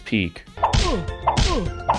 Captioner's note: chop; chop x2